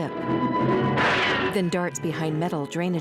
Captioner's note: gunshot